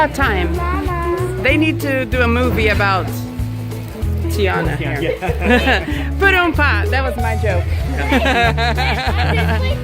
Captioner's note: laughter